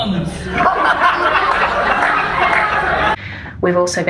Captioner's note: audience laughs